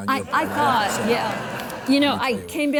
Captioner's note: audience laughs